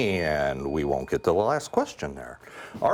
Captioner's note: bell ringing